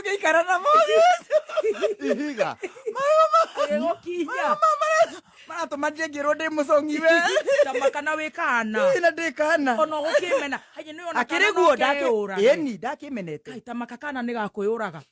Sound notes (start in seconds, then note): 6.9 laughter